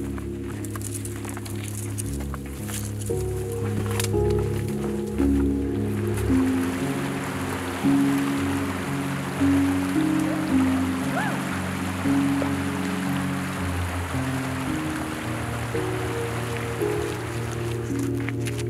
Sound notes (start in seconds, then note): 0.2 branches rubbing; 7.1 footsteps splashing